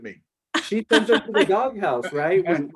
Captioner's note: laughs